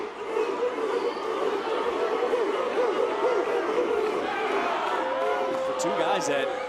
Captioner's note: crowd cheers